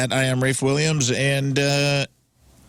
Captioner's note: none